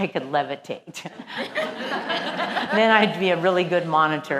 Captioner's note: laugh